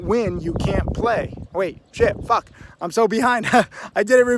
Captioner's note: laughs